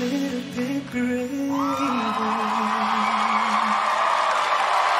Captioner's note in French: applause